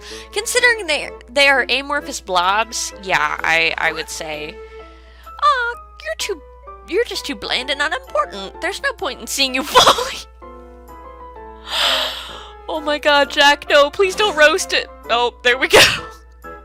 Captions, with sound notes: Considering they are amorphous blobs, yeah, I--I would say-- Awk, you're too--you're just too bland and unimportant. There's no point in seeing you fully [laughing] [Gasps] Oh my God Jack, no, please don't roast--oh, there we go!